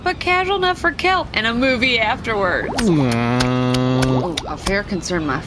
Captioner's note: growling